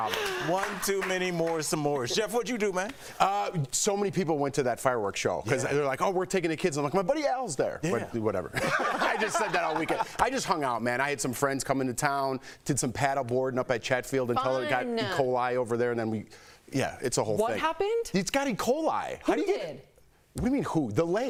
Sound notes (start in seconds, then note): 5.2 laughter